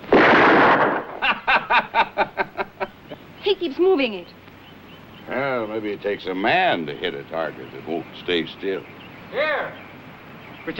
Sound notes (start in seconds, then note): 1.2 Tom laughing